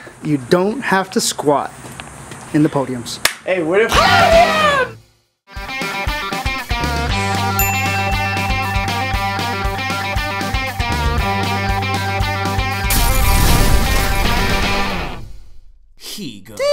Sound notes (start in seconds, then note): 3.1 smack